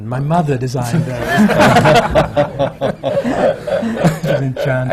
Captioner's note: laughter